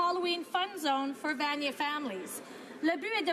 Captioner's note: speaking French